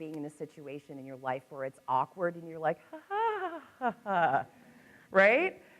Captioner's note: laughs